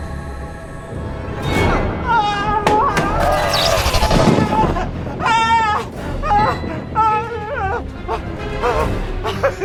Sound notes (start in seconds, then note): 1.5 Bob screaming; 1.5 flashlight thuds; 2.8 vampire screeching; 3.2 lights buzzing; 4.3 Bob screaming; 4.3 suspenseful music